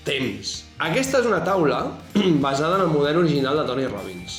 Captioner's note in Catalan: s'aclareix la gola